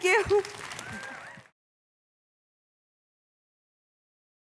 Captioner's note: audience clapping